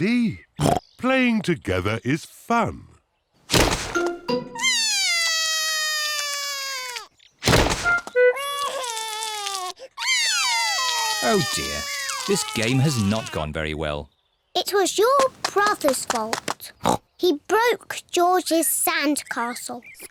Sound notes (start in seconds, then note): 4.6 cries; 8.3 cries; 10.0 both cry